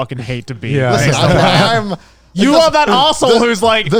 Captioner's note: all laughing